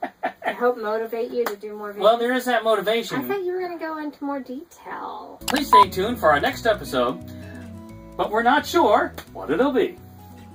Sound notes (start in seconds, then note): 0.0 laughing; 5.4 click and beep